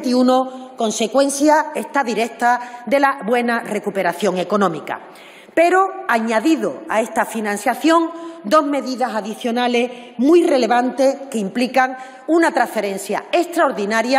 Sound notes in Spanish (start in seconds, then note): none